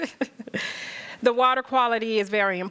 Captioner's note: chuckles